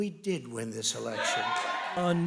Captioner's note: cheering and applause